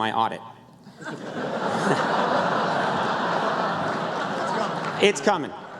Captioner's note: laughter